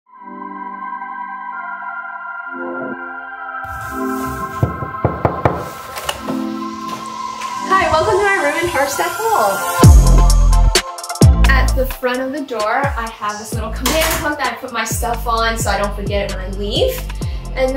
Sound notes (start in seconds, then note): 0.5 gentle music; 4.5 hand knocking